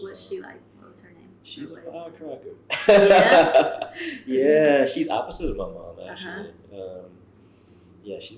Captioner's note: laughter